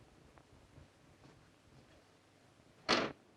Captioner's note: none